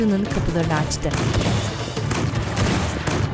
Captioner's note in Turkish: Müzik - Gerilim; Silah sesleri